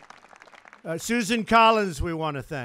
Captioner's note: applause